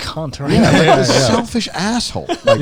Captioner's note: laughing